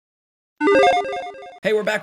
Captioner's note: video game sound effect